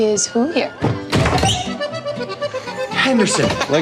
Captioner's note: whimsical music; door squeaks